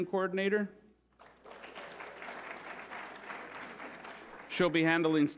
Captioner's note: audience applauding